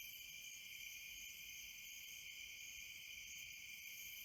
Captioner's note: crickets chirping